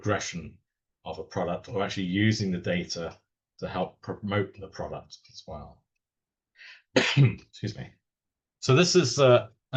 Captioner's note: cough. Excuse me